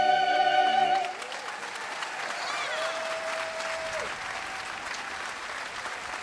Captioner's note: attendees cheering and applauding